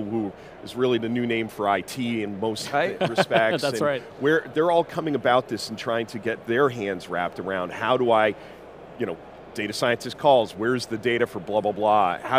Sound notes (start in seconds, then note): 2.9 laughing